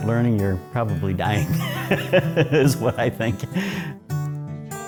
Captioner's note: laughs